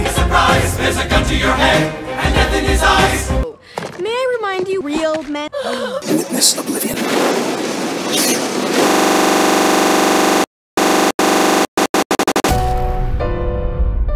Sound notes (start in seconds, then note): 5.6 gasps and awes